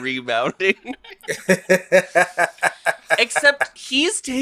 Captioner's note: laughs